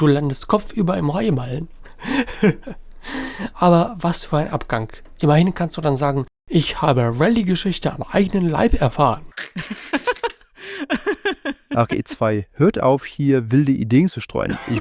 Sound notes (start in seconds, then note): 1.9 laughs; 10.7 giggle